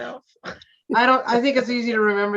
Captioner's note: laughing